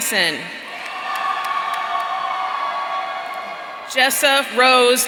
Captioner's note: audience cheering